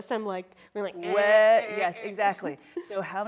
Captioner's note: imitates buzzer buzzing